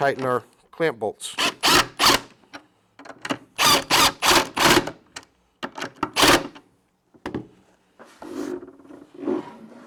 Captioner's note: drilling Noise